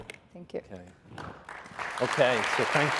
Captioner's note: applause